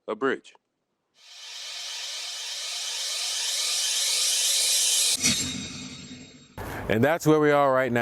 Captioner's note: winding sound effect